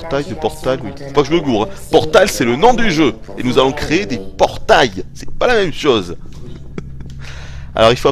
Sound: laughters

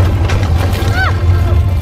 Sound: simba yells

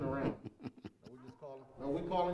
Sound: laughter

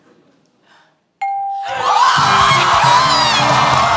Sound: bell dings; wild cheers, applause

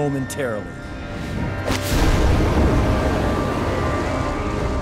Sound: whooshing

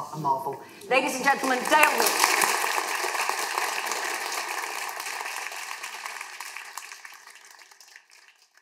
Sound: applause

